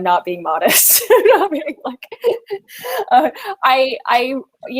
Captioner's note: laughs